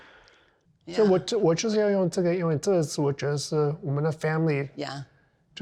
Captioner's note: speaking in Chinese